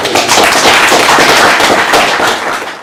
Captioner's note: applauding